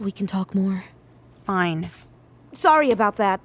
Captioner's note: whispered